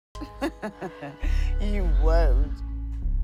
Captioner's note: Miss. Fang laughing